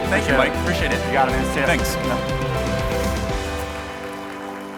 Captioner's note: overlapping thanks; upbeat music